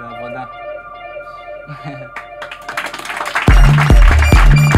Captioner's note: applause